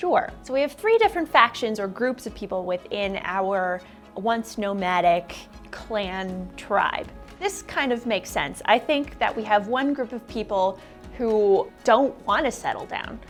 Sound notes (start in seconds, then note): none